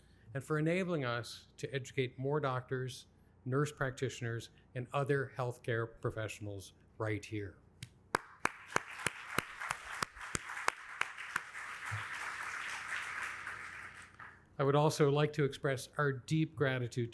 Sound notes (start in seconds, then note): 8.1 audience applauding; 8.1 applauds